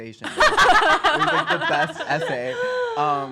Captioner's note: women laugh